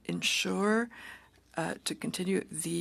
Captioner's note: speaking French